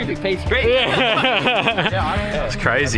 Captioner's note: laughing